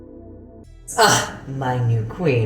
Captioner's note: moans